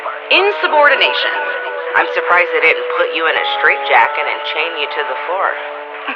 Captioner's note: laughs